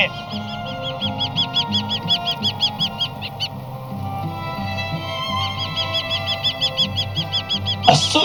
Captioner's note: birds Chirping